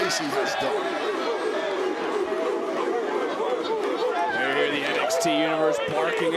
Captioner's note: crowd barks